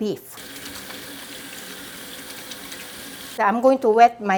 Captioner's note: water running